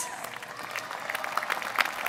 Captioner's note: applause